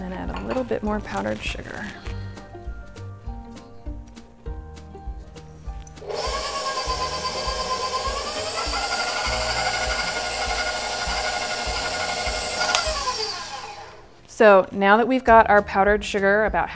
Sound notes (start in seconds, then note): 2.3 happy music; 6.0 whirring